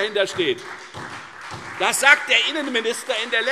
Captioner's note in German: Beifall